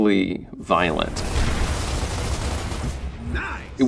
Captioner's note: guns shooting